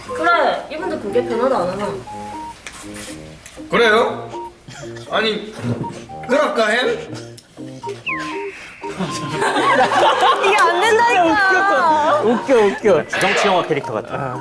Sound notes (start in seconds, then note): 7.9 chuckles